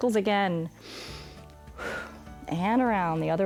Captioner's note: inhales and exhales